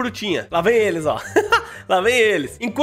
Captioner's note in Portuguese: risos